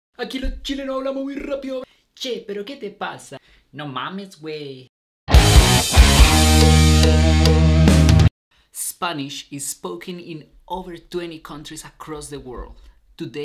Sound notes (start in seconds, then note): 0.1 speaking in foreign language; 5.2 rock music